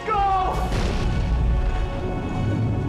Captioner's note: crash